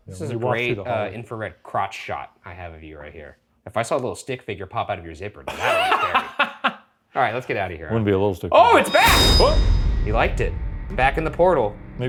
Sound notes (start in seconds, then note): 5.4 laughs